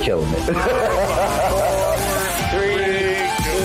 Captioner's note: laughing